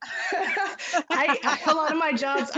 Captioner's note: all laughing